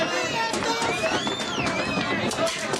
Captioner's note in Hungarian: mérges lárma